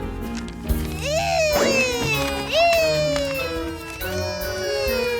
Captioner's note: upbeat music; kids mimic sirens